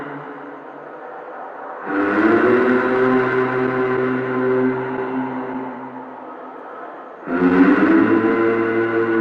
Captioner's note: humming sound